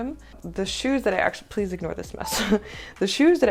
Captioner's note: laughter